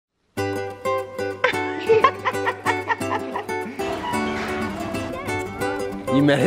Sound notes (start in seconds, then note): 0.4 playful music; 1.4 laughing